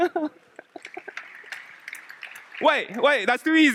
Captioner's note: applause